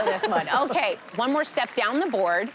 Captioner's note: chuckles